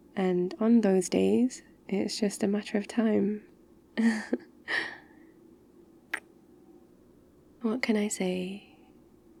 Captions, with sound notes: and on those days... it's just a matter of time *laughs* *kiss* what can I say?